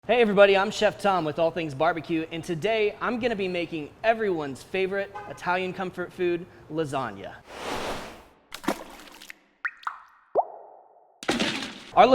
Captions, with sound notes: - Hey, everybody, I'm Chef Tom with All Things Barbecue, and today I'm gonna be making everyone's favorite Italian comfort food, lasagna. (splashing) (dripping)